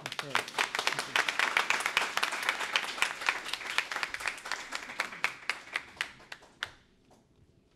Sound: applause

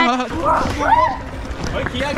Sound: screams

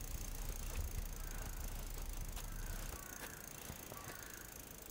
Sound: bike wheel rattles

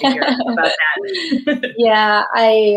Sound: both laughing

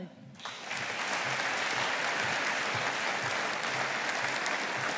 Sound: audience applauding

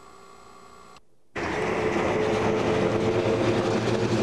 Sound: traffic noise

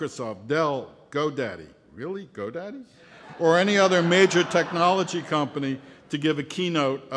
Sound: laughter

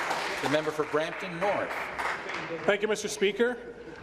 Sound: applause

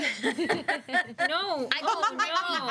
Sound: girls laughing

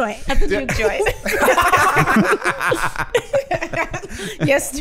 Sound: all laughing

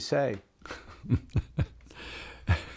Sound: laughter

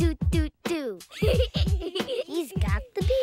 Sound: children laugh

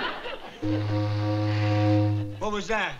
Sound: ship horn blaring

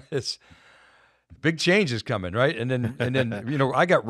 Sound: chuckles; chuckles

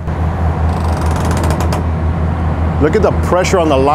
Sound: boat creaks

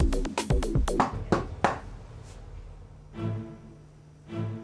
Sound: knock thudding

